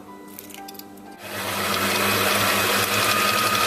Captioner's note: mixer whirring